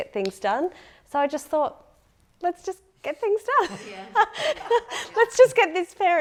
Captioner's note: laughing